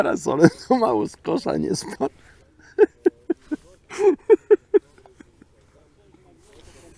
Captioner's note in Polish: śmiech